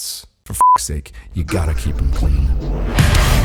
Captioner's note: beep; upbeat rock music